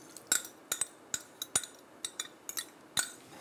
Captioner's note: spoon tapping